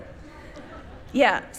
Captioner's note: people laughing